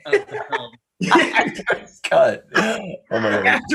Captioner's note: group laughing